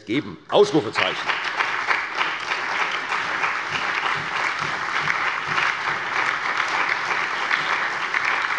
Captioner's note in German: Allgemeiner Beifall